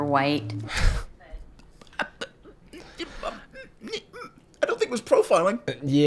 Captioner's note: stuttering